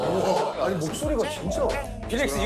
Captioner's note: unique cavernous voice